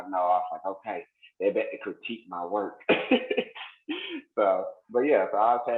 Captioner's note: laughs